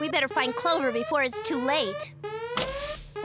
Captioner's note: alarm ringing